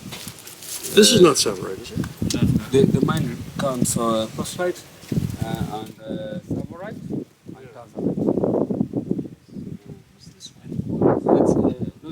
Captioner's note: wind noise